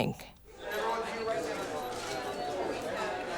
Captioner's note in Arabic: ثرثرة في الخلفية